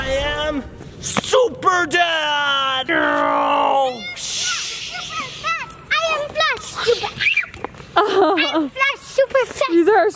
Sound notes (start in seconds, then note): 4.0 imitating swooshing; 7.1 screams